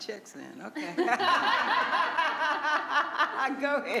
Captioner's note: all laughing